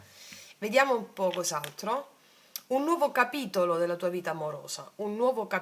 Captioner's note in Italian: sbuffare